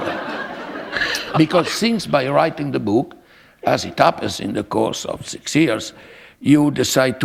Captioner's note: laughter